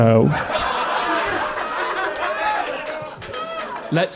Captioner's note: big laugh